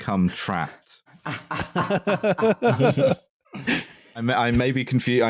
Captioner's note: laughter